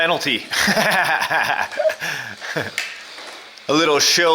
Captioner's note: laughs